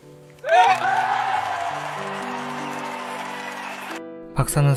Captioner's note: applause